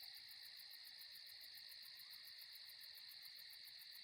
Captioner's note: crickets chirping